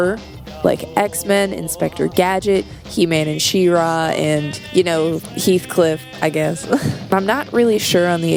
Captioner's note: laugh